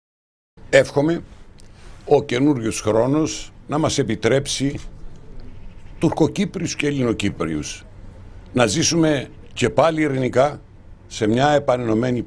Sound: in Greek

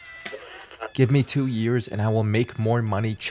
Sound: alarm clock beeping

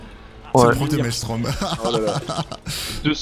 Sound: laughs

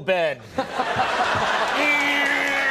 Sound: laughter

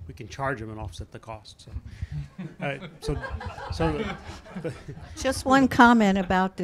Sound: chuckles

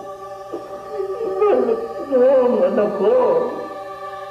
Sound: crying

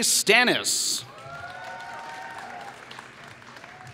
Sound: applause

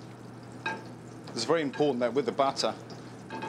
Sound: voiceover

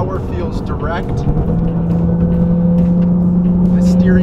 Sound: car engine roaring

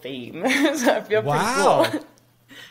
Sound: chuckles

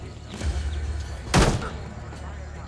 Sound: Mario kicks door

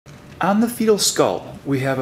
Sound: voiceover

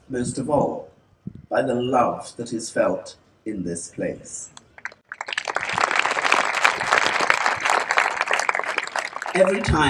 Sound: applause

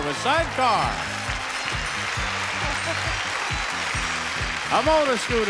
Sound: audience applauding

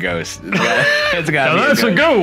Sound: laughing

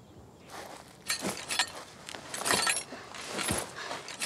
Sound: metal clanking

